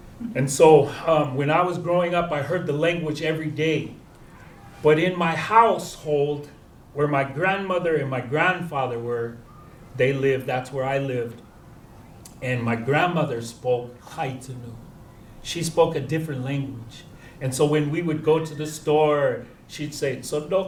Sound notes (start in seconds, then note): 14.2 non-english; 20.4 non-english speech